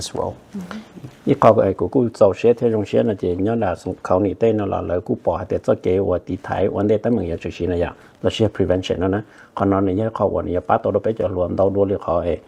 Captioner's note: Speaking in Hmong